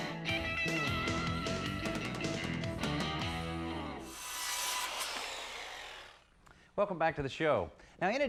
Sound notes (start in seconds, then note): 0.9 machine whirring